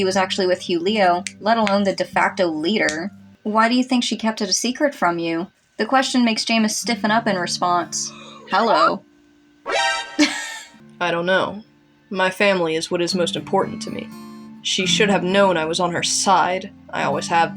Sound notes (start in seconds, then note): 9.7 alert Sound; 9.7 laugh